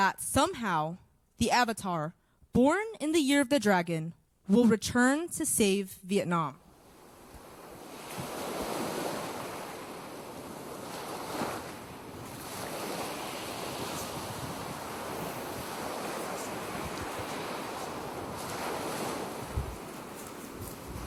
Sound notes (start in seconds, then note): 6.6 waves crashing